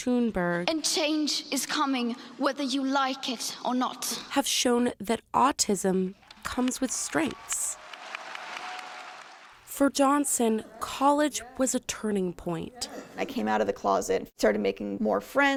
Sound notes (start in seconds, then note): 6.2 audience applauds